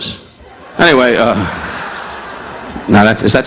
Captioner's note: audience laughing